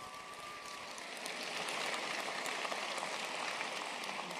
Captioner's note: applause